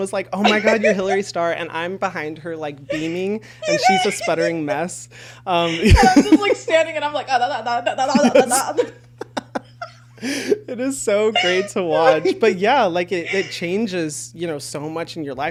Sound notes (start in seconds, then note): 8.1 talking gibberish; 9.1 both laughing